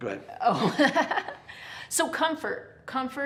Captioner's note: laughs